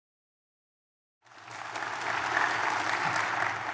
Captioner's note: audience applauds